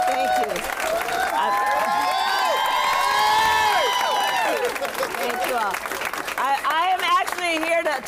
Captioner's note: applause